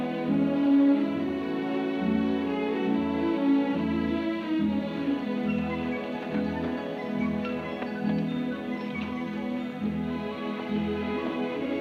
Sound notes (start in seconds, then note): none